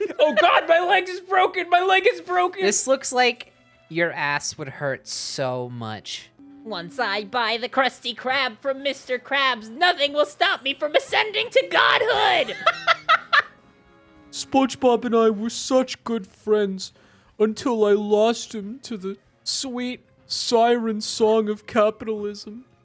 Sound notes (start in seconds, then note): 6.8 Spongebob voice; 11.8 laughing